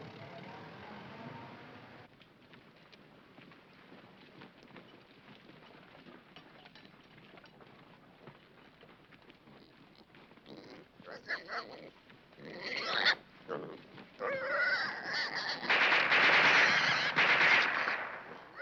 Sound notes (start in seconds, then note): 10.7 pig squealing; 15.6 gun firing